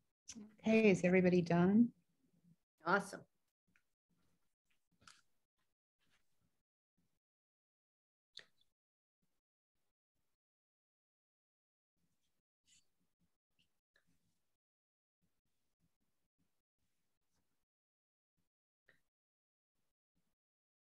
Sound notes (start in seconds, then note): 9.4 silence